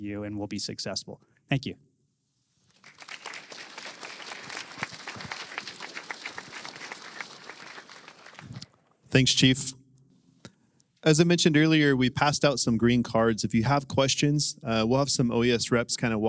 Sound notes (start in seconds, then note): 2.7 applause